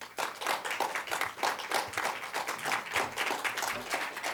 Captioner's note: audience applauds